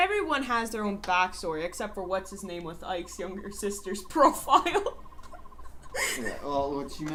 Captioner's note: starts to laugh again